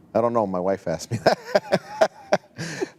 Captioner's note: laughing